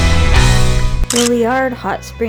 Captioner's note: photo click